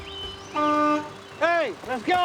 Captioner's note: horn honking